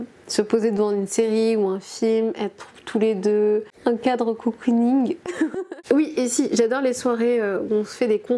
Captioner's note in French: rires